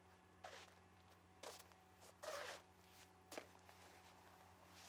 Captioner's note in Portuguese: chinelos arrastando